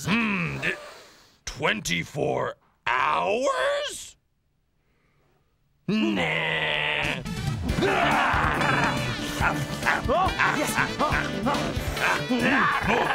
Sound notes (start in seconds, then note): 7.6 both growling hungrily; 10.9 slurping and grunting eagerly